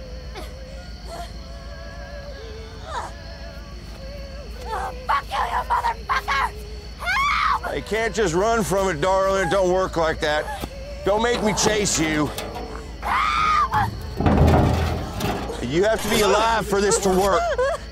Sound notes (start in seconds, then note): 1.0 Stephanie grunt, panting in distance; 13.6 metal canister being removed from truck bed